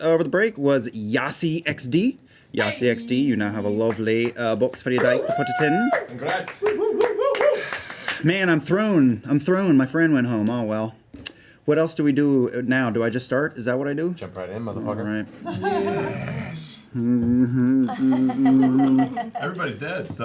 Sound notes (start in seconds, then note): 7.0 cheering